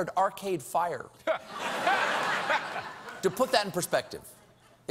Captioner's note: laughter